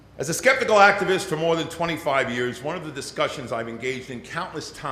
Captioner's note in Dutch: none